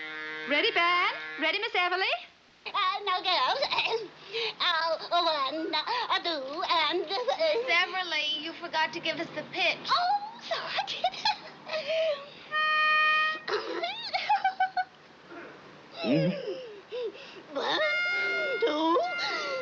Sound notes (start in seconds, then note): 13.4 laughs